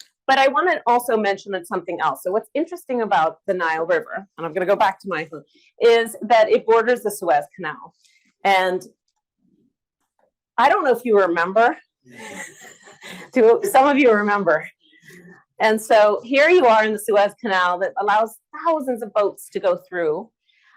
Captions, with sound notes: But I wanna also mention something else. So what's interesting about the Nile River, and I'm gonna go back to my (speaking away from mic), is that it borders the Suez Canal. And I don't know if you remember, (laughs) do some of you remember? And so here you are in the Suez Canal that allows thousands of boats to go through,